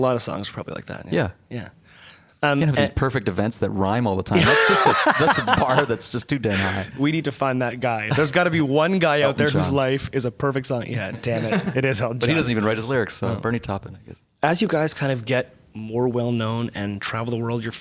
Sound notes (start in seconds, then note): 4.3 laughter